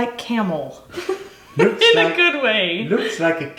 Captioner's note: laughs